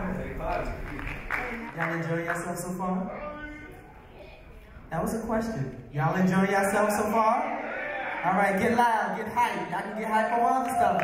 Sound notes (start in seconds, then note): 3.4 audience members mumble